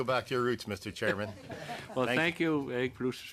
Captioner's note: laughter